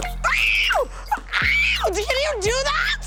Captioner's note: Tana screaming